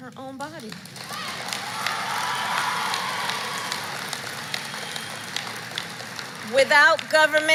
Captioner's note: applause